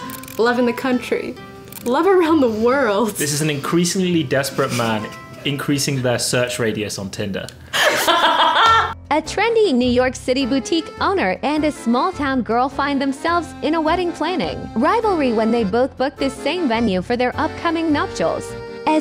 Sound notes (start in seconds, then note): 7.7 laughs; 9.2 AI Voice